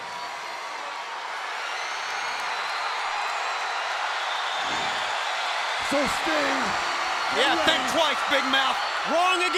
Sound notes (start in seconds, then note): 1.4 audience cheers